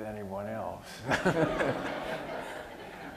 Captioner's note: laughter